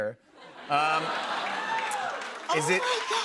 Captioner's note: laughter; laughing